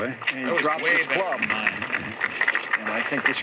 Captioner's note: applause